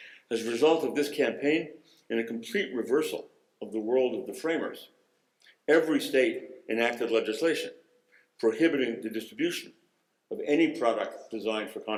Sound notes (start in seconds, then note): none